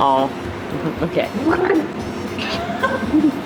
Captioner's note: gurgling noises